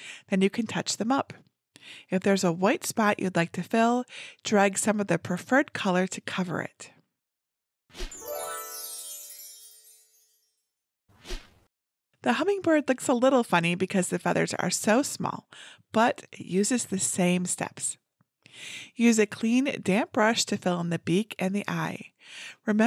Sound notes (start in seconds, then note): 8.1 chimes twinkling